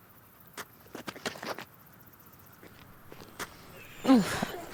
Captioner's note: boots scuffling; Del grunts